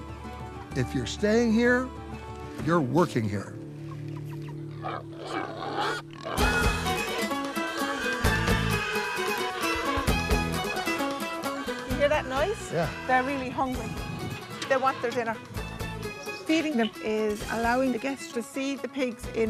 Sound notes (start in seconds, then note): 4.9 pigs oinking; 6.4 upbeat music